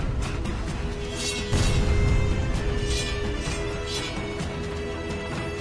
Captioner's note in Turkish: Kılıç sesi